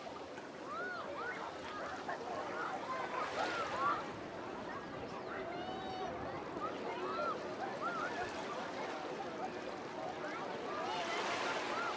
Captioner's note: background chatter